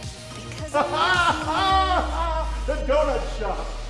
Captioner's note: Mayor Tennity laughs